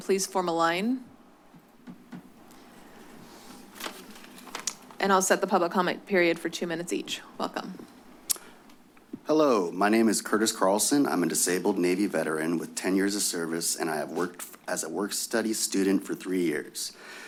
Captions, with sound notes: please form a line [pause] [paper rustles] and I'll set the public comment period for two minutes each. Welcome. [clicks tongue] - Hello, my name is Curtis Carlson. I'm a disabled Navy veteran with 10 years of service. And I have worked... as a work study student for three years.